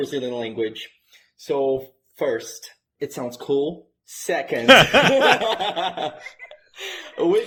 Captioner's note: laugh